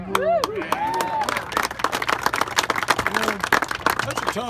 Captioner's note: applause